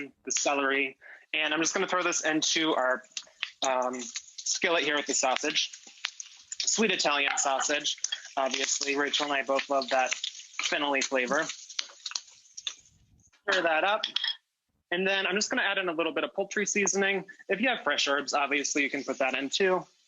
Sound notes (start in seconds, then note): 5.4 sausage sizzling; 14.0 spoon clinks